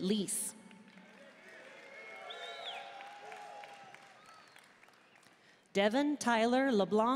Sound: audience cheering and applauding

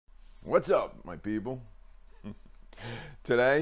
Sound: slight laugh

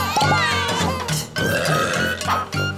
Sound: larvae belch

